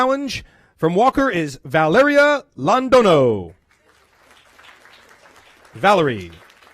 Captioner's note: applause